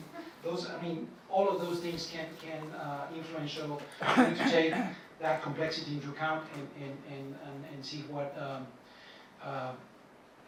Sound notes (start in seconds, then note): 4.0 coughing